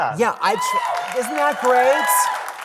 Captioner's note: audience cheering